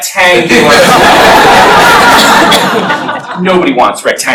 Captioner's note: laughter